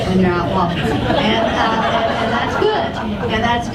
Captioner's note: audience laughs